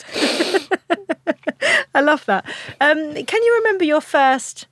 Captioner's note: laughs